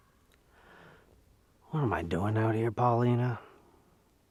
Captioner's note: inhales